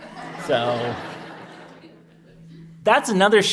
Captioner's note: audience laughs